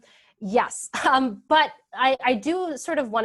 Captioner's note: laughs